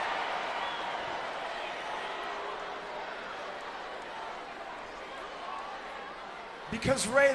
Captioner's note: applause